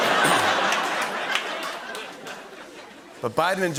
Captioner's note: laughter